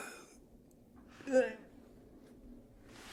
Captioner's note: grunting